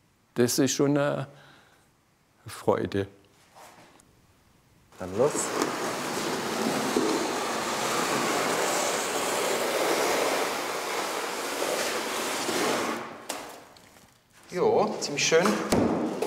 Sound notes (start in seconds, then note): 5.9 grinding noises